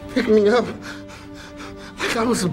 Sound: breathing

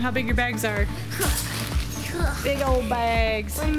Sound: grunting

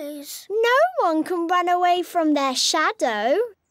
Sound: none

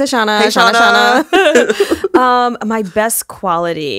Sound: both laughing

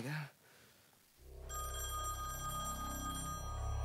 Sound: phone rings

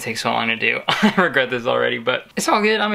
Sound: chuckles

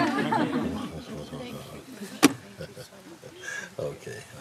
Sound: laughter

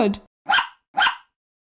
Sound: bark! Bark!

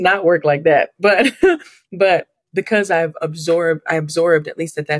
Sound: laughs

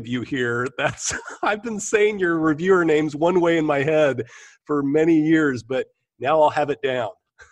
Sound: chuckle

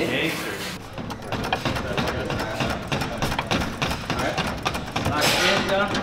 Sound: hydraulic jack pumping

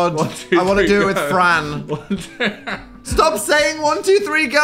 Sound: laughs

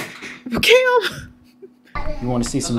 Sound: laughs

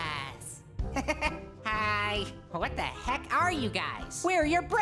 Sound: chuckles

